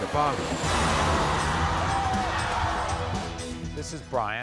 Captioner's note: audience cheers